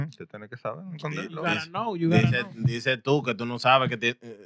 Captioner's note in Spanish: Hablando en idioma extranjero